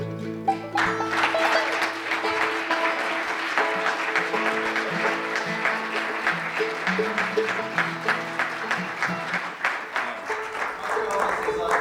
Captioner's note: applause